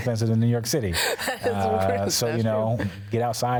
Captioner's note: laughs